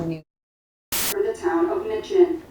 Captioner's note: camera buzzing